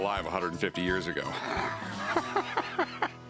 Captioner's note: laughs